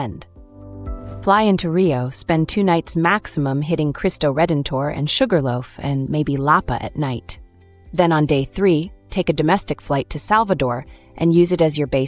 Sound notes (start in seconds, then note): 1.3 thoughtful